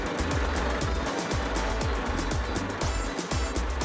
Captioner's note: tractor rumbling